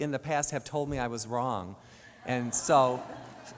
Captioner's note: audience laughs